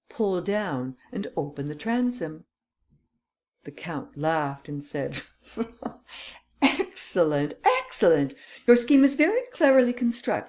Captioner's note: laughter